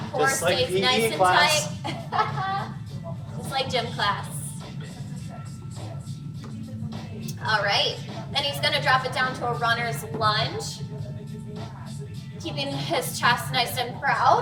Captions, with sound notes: Core stays nice and tight. - It's like PE class. (laughs) - Just like gym class. All right, then he's going to drop it down to a runner's lunge, keeping his chest nice and proud.